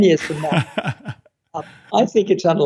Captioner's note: laughing